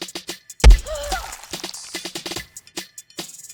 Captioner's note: smack